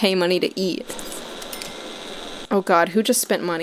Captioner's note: perfectly timed "spending simoleons" sound effect